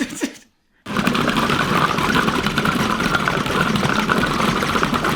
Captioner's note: laughing; mincer grinding vigorously